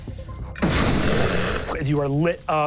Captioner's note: whooshing